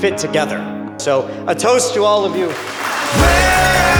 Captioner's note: cheering